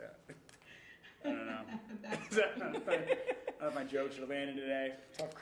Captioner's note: laughing